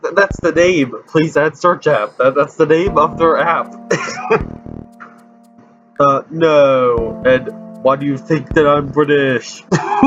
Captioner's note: laughs